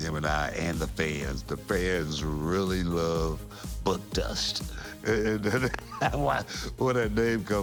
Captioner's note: laugh